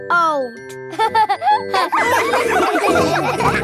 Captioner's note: all laughing